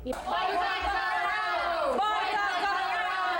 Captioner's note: chanting